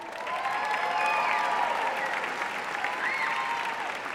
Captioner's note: audience cheering